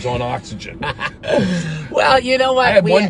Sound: laughing

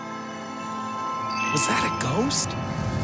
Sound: eerie music; ghost tinkling

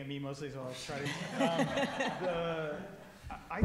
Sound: everyone laughing

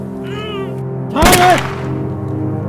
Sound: gunshot

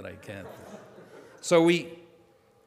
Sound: audience laughing

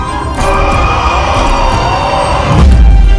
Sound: horror screams

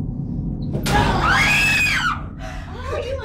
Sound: Heather and Morgan screaming; Dean shouts

